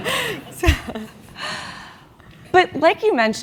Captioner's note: laugh